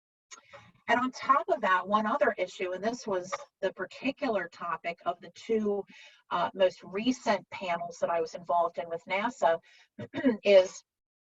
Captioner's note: clears throat